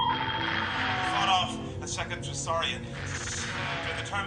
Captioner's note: with static